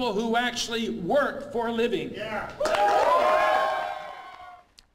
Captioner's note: applause